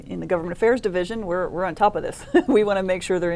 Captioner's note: laughs